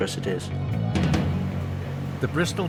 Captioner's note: intense music; boat droning